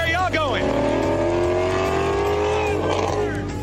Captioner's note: engine revving